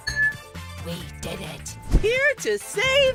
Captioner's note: whispering